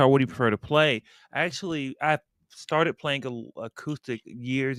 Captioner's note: none